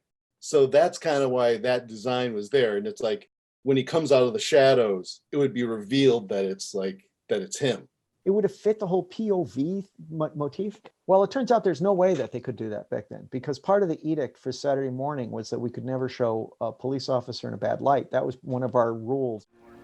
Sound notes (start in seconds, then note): none